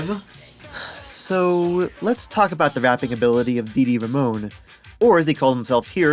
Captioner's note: sigh